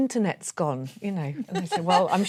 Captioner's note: laughing